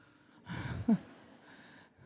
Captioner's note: laughs